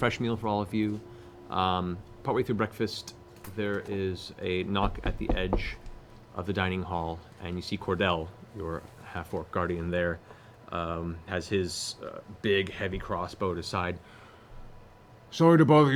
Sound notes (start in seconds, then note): none